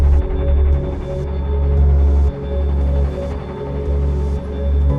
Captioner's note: none